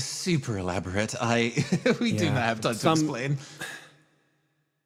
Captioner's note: chuckle